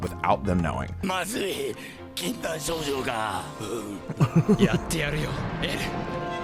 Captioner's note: speaking in foreign language